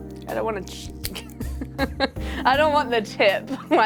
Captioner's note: chuckling